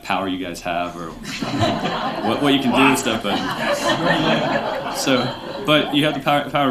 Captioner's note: laughter